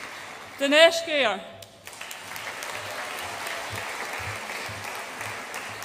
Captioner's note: audience applauds